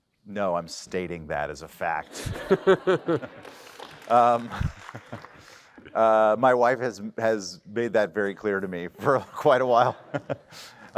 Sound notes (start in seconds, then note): 2.1 laughter; 3.1 applause